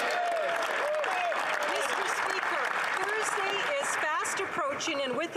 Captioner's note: speaking French; some Applause